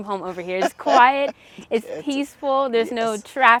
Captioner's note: laughs